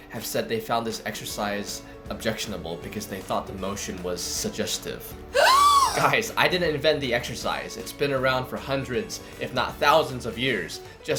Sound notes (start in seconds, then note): 5.3 woman gasping